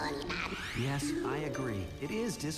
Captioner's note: epoch babbling